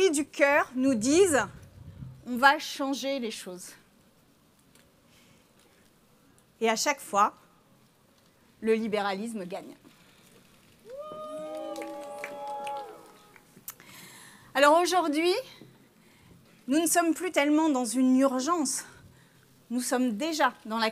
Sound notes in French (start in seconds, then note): 10.9 huées